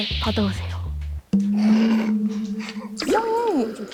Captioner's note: Even for Gen Z, something feels off sound effect